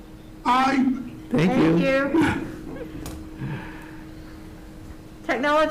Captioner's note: chuckles